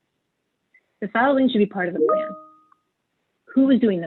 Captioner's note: chimes